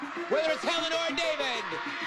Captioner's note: audience cheering